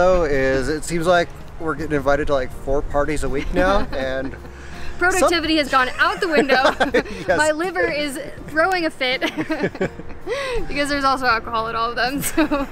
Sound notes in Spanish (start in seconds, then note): 3.4 risas; 5.8 risas; 9.2 risas